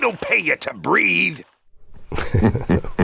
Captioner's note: laughter